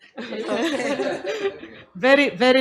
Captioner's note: doctors laugh